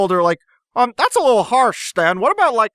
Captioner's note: in Soos' voice